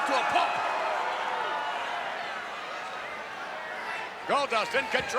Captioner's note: crowd yelling